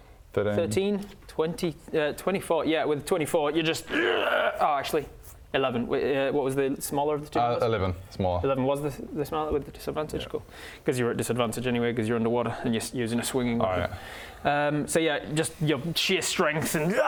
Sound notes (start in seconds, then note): 3.8 hrrgh